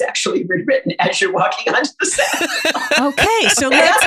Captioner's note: guffaw